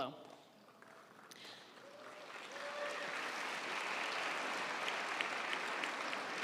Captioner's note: audience applauding; audience cheering